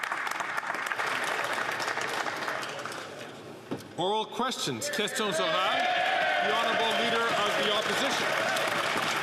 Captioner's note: some Applause